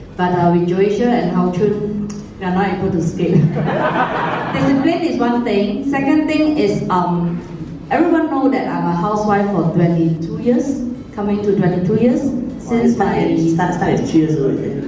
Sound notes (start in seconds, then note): 3.4 laughter